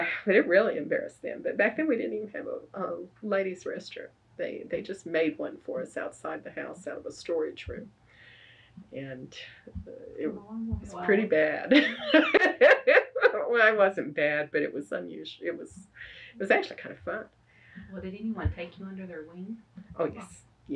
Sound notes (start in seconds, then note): 11.7 laughs